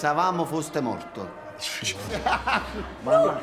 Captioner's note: Omero's laughing